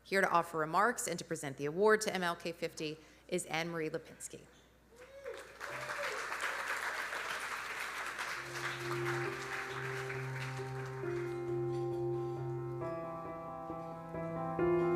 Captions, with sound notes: Here to offer remarks, and to present the award to MLK50, is Ann Marie Lipinski. (audience cheering) (audience applauding) (gentle music)